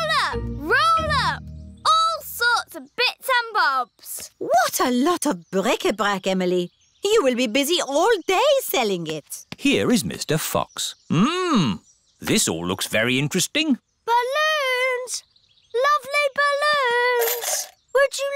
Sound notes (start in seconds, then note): none